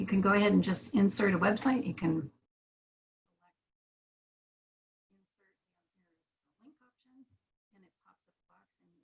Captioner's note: brief interruption of sound